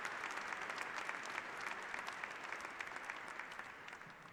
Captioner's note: applause